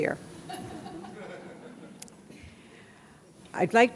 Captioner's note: audience laughter